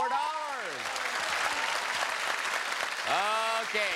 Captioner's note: cheers and applause